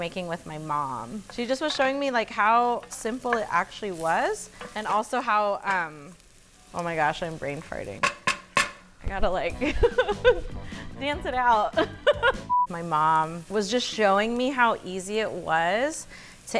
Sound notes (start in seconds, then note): 8.0 spoon tapping; 9.5 laughs